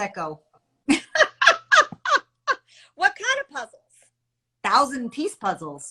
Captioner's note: chuckles